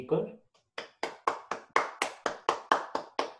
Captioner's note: clapping